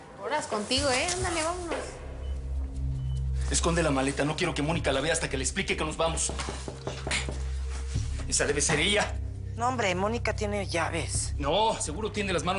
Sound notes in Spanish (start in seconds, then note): 6.2 Toques en la puerta